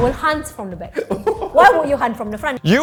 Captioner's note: laughing